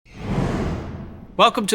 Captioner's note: air whooshing